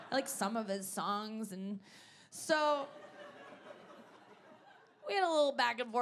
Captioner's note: audience laughing